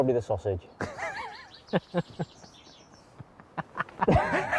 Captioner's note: laughter